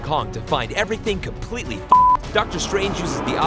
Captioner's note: beep